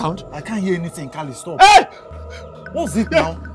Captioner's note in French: crie